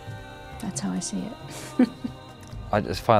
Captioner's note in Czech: směje se